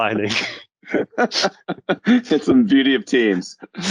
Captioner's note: panelists laugh